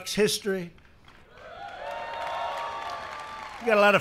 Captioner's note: applause